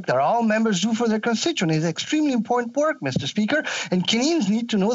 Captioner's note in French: voix de l'interprète